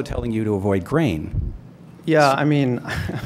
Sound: laughs

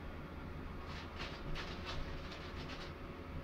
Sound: paper Shuffling

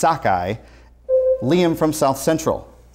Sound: buzzer sounds

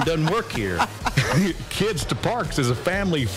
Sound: laughter

